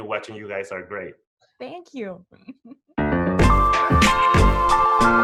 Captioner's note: chuckles